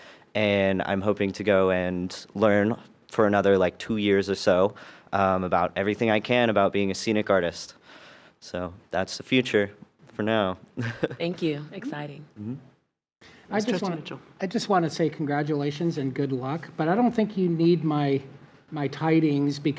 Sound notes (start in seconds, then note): 10.8 chuckles